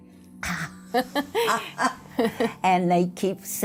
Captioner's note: laughter